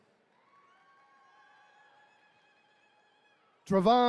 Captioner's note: attendees cheering